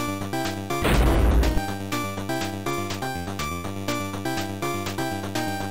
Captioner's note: thud